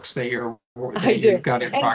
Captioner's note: chuckling